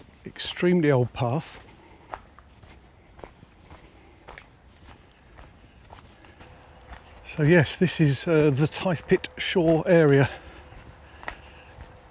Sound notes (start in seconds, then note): 3.3 footsteps shuffling